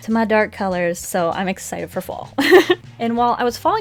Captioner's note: laughs